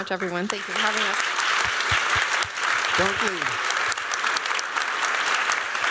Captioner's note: applause